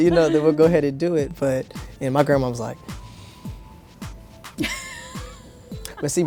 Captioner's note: breathes deeply; laughs